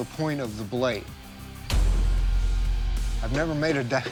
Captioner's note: dramatic thud